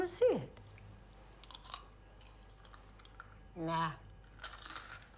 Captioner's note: crunching